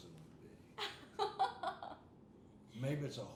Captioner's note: laughing